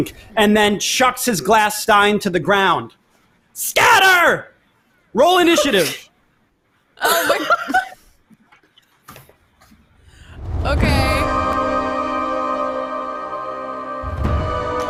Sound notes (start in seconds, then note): 7.0 laughs; 10.3 dramatic instrumental music